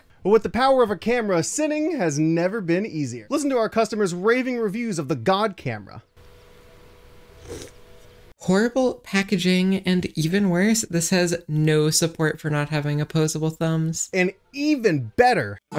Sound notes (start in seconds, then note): 6.1 camera static; 7.3 slurp